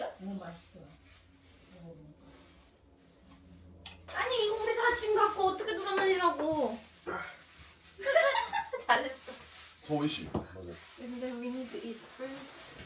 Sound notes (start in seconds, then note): 8.0 laughing